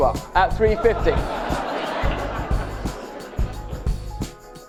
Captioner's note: crowd laughs